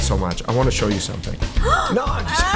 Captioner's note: gasp